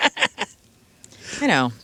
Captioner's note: laughing